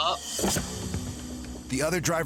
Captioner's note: woman opens door